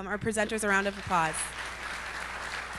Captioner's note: applause